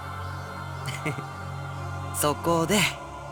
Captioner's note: chuckle